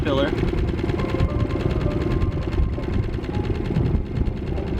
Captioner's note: heavy winds